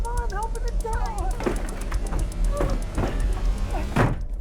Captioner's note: door rattling; door slams shut